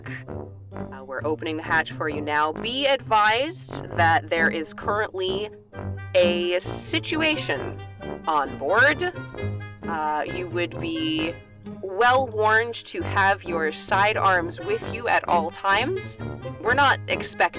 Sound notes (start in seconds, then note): none